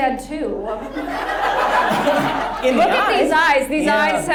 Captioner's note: audience laughs